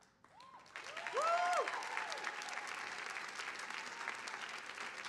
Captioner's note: audience applauding